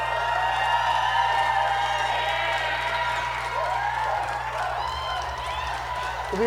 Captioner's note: applause